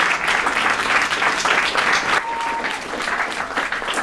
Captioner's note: applause